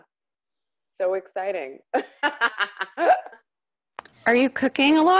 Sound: laughs

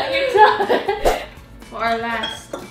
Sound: slide swooshing

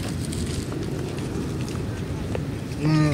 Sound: crunch crunch

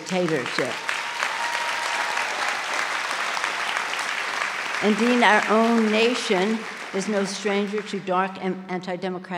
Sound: applause

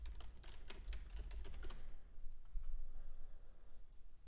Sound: keyboard clicking

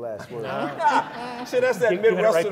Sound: laughter

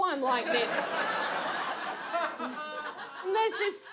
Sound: audience laughs

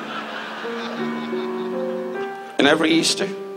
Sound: audience laughs

